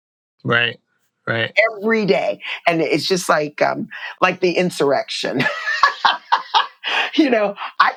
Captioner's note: laughter